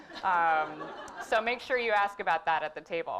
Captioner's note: laugh